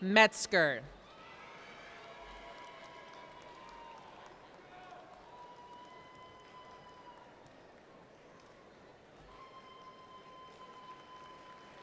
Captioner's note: applause & Cheers